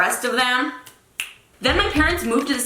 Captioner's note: snapping